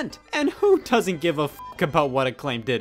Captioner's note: beeps